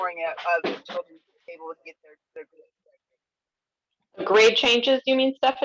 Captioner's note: faintly speaking